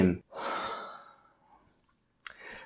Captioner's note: sigh